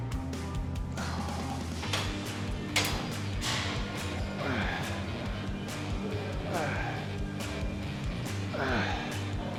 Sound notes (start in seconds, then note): 0.1 upbeat rock music continues; 1.8 metal clanking; 4.0 breath whooshing; 4.0 upbeat rock music continues